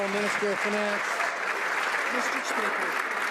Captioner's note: some Applause